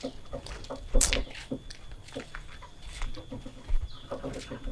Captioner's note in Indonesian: Suara langkah dan roda berdecit